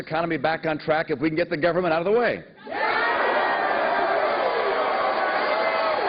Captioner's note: cheers and applause